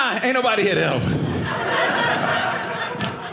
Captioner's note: audience laughing